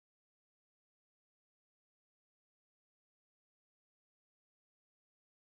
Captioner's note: speaking faintly